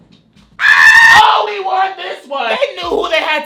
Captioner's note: screams